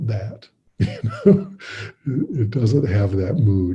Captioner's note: laughing